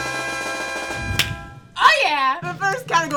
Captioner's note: mariachi music; claps